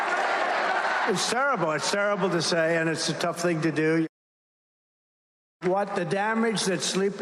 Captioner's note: crowd chanting